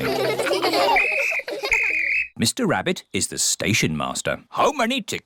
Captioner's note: blows whistle